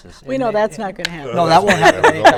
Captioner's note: laughter